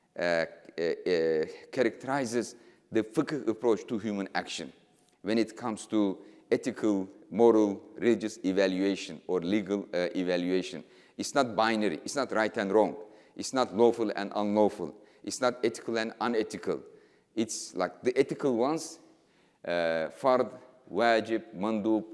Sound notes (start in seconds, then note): 18.6 speaking in foreign language